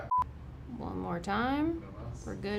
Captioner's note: beeping